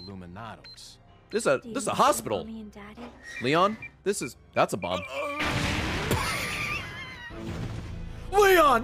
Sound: laughs

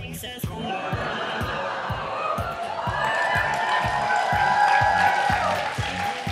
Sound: audience laughs and cheers

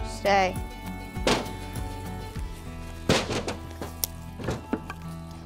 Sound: wood chunking in wagon

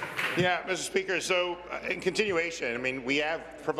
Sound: applause

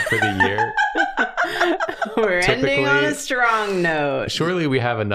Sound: laughter

